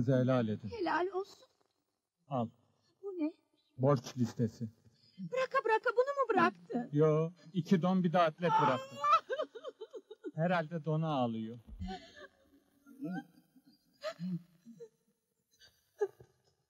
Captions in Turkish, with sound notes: - Hakkınızı helal edin. - Helal olsun. - Al. - Bu ne? - Borç listesi. - Bıraka bıraka bunu mu bıraktın? Yoo, iki don, bir de atlet bıraktım. [AĞLAMA SESİ] Herhalde dona ağlıyor.